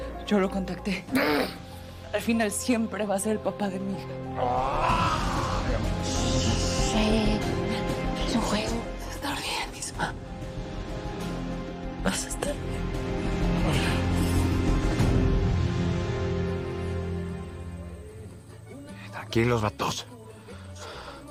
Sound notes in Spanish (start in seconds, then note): 4.4 Grito